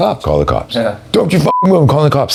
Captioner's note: beep